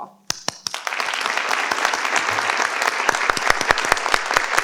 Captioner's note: participants clap